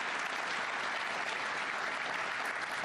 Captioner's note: applause